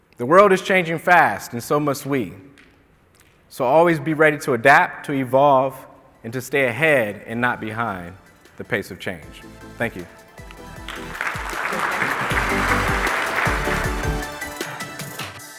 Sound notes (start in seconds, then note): 9.9 audience clapping; 12.5 gentle bright music; 15.4 gentle bright music ending